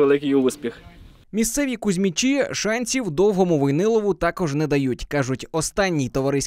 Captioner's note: voiceover